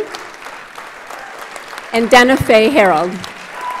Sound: audience applauds

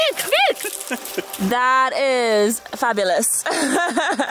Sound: laughing

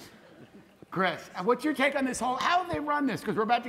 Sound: laughter

